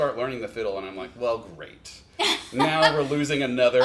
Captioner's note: laughs